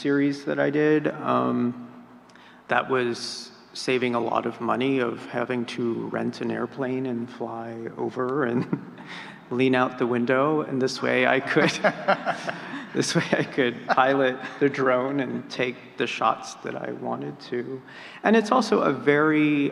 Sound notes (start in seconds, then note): 11.5 laughing